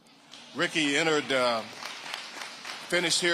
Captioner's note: audience applauding